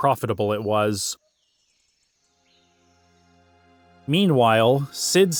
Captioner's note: birds chirping